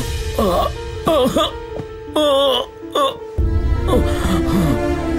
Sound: groans

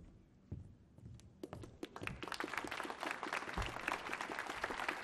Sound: applause

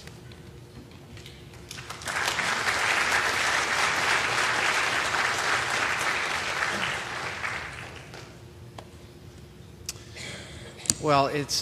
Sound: applause

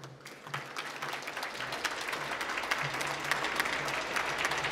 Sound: applause

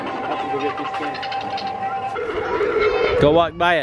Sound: spider squeaking

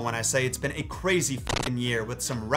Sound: static crackles

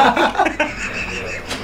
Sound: everyone laughs

